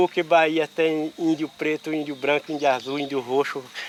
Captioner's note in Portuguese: Sons de insetos no mato